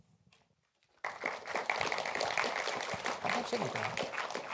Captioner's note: applause